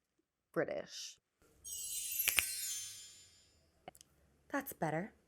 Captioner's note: magical chimes